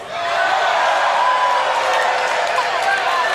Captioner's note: crowd boos